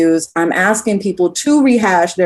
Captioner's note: none